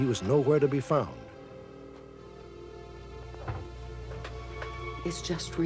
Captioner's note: phone ringing